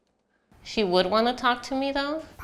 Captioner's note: none